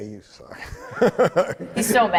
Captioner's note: laughs